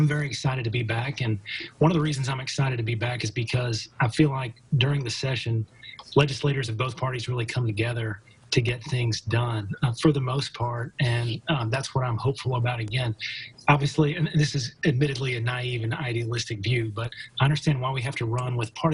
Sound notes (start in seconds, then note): 1.4 chuckling